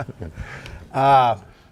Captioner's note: laughing